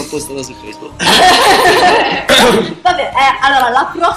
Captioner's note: laugh